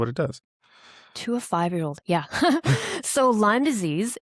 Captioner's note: laughs